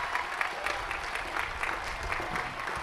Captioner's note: applause